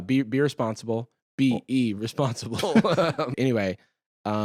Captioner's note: laughs